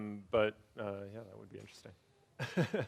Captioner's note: laughs